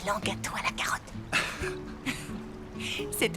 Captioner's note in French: rires